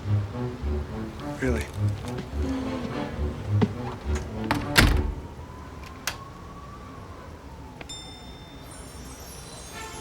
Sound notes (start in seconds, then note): 3.6 door closes, locks